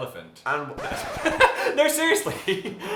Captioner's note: record scratching